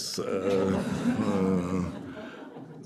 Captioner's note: laughter